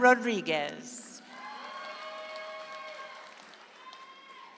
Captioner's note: audience applauds